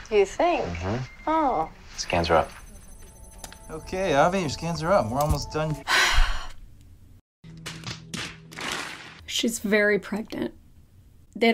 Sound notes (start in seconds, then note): 5.8 sighs; 7.5 slapping sounds